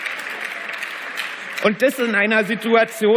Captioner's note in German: Beifall